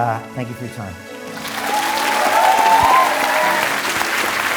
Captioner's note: audience applause